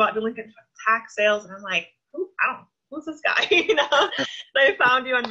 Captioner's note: laughs